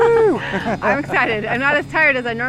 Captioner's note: laughs